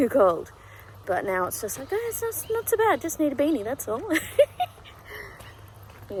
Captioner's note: giggles